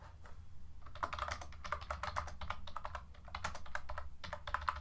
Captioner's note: keyboard clacking